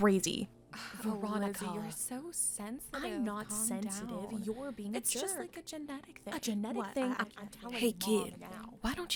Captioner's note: Lizzie and Veronica arguing